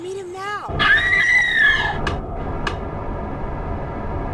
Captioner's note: screaming